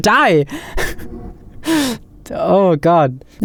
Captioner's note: gentle shwoop